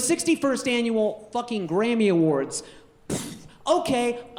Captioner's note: puffs